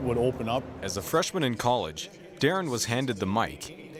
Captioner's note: voiceover